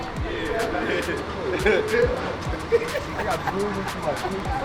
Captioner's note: laughs loudly